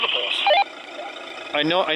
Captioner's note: radio beeps